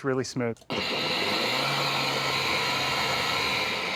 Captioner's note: whirring; whirring stops